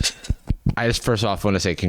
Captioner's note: laughs